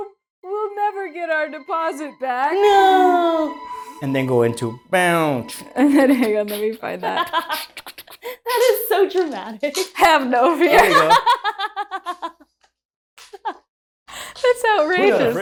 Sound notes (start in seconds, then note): 10.6 laughter